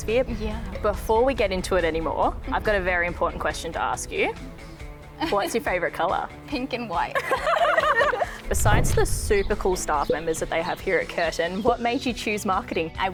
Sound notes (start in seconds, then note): 7.1 both laugh